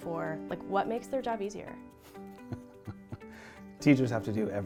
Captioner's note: laughs